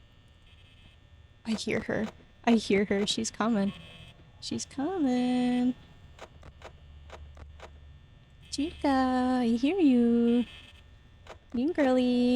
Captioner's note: sing-songy